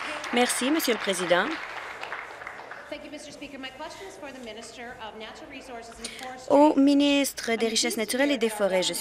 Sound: applause

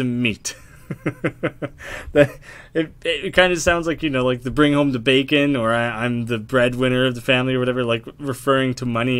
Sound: laughing

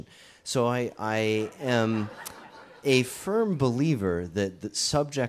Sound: audience chuckles

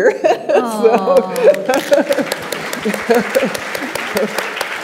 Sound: audience applauds

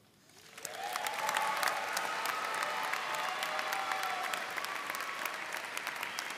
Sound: audience cheering and applauding

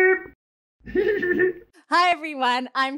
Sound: Scruff laughs

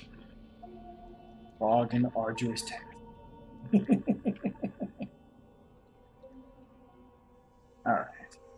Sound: chuckles

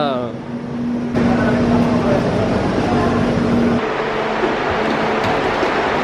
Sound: moving walkway rumbling

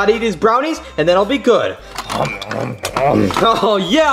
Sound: chomping

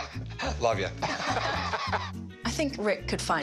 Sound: laughter

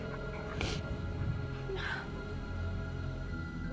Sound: cries

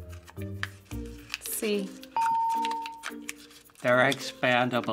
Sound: ding

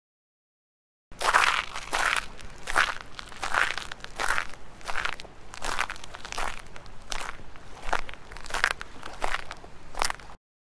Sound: sound of footsteps

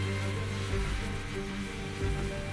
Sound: steam hissing

